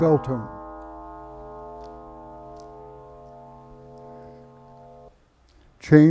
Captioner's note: bell tone